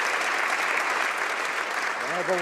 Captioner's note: some Applause